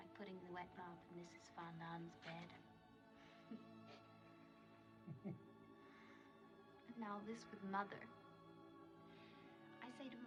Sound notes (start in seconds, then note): 3.2 chuckling; 3.2 giggles